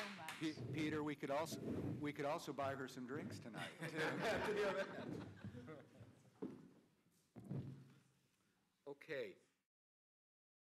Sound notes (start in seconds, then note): 3.5 laughter